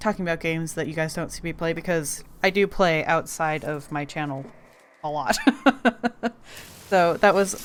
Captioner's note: laughs